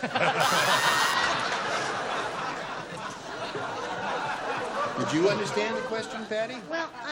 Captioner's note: buzzer